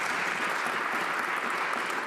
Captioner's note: some Applause